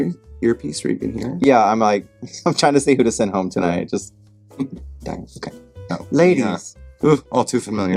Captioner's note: imitating Ru